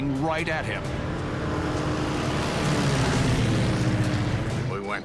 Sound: plane roaring

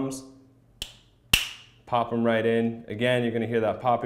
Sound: popping

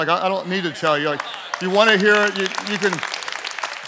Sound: congregants applauding

